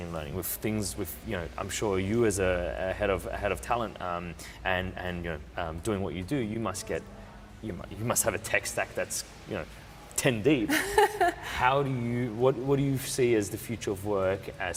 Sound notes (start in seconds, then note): 10.6 laughs